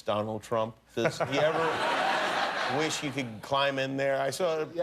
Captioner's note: laughter